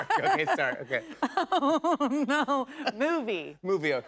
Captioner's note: laughing